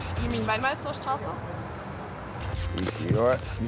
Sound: speaking foreign language

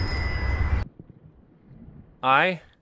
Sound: bicycle bell; birds chirping

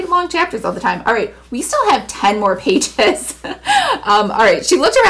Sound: laughs

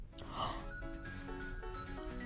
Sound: gasping

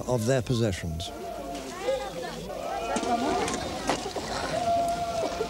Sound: non-english speech

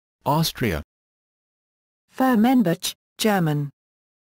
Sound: German

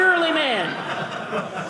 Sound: audience laughing

